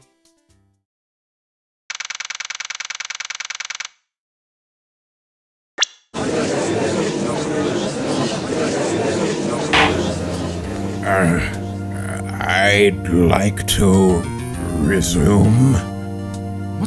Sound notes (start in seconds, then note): 6.4 gallery chattering; 9.7 gavel slams!